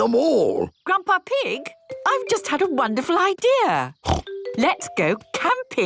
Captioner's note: snort